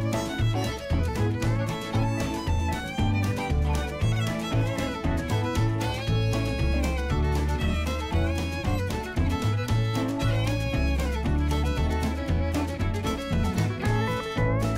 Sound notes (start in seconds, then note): none